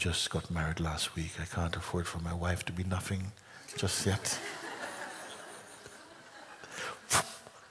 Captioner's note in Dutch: gelach